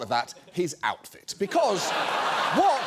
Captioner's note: studio audience laughs